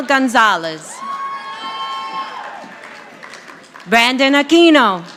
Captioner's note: audience applauding